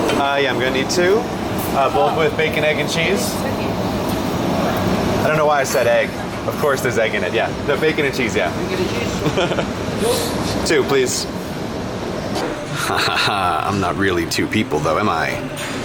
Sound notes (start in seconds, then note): 10.4 chuckle